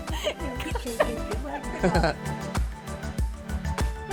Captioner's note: laughing; upbeat music